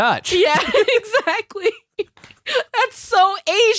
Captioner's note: both laughing; both laughing